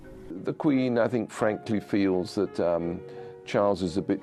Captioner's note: voiceover